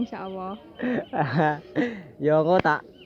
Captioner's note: ketawa